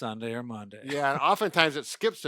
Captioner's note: laughing